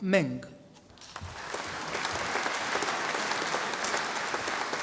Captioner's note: audience applauding